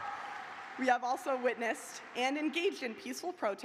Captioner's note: cheers and applause